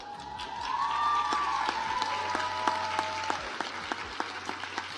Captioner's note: audience applauds